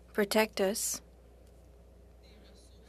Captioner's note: speaking French